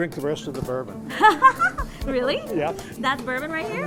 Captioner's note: laughs